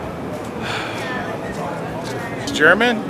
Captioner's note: exhales